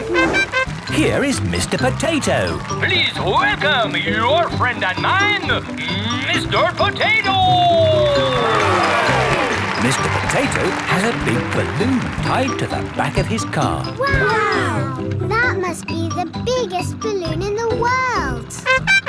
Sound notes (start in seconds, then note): 0.2 horn tooting; 8.9 cheering